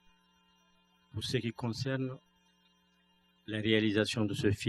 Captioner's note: speaking french